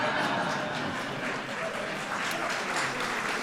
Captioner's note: laughter; applause